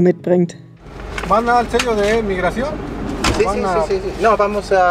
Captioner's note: military official in Spanish